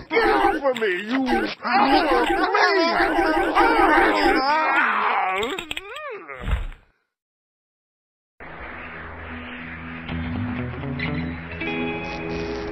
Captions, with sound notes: Get off of me, you- Ow, please! Get off! (Lobo moans in pleasure)